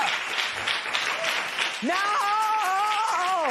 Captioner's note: applause